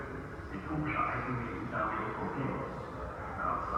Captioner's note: none